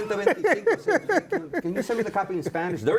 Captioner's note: laughs; speaking Spanish